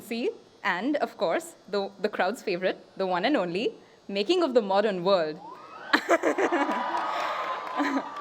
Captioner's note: applause